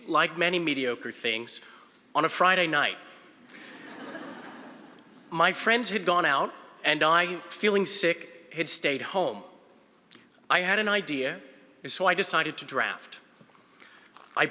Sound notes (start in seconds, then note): 3.6 audience laughing